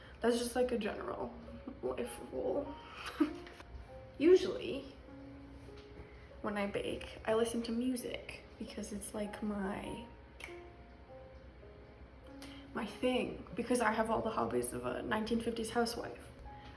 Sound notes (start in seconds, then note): 2.4 laughs; 10.4 snaps